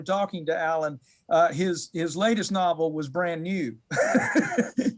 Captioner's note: laughs